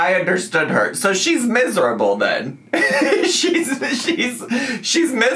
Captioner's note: laughs